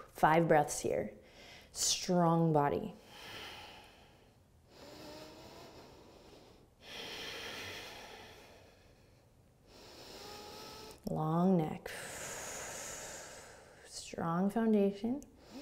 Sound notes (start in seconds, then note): 0.0 exhaling breath; 3.0 deep breathing; 11.9 exhaling